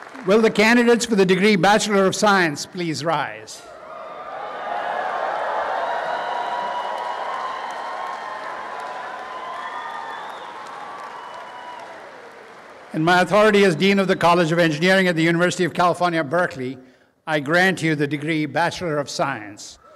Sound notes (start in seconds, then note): 3.8 applause and cheering